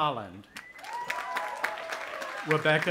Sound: audience applauding

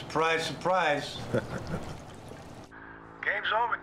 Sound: chuckles

